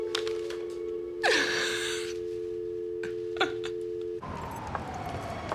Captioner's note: woman sobbing; phone ringing; siren wailing